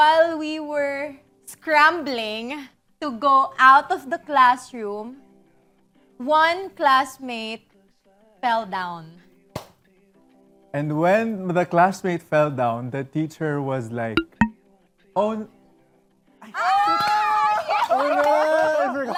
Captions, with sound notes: while we were scrambling to go out of the classroom, one classmate fell down. [CLAPS] And when the classmate fell down, - the teacher was like... - [ERROR SFX] "Oh--" - [CHEERING, CLAPPING] - Oh, man!